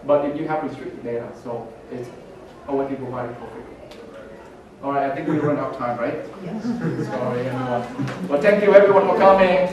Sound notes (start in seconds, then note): 5.2 murmurs